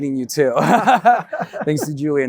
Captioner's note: both laugh